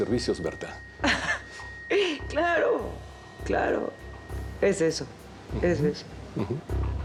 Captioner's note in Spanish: ella ríe